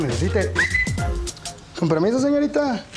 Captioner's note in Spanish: Silbido